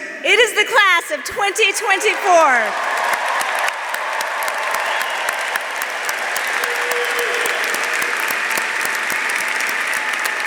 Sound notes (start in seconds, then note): 1.3 audience cheering; 1.4 audience applauding